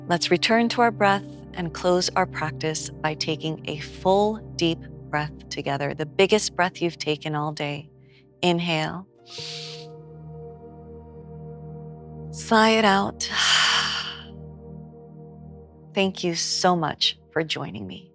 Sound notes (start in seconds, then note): 13.4 loud exhale; 17.9 meditative music slowly fades out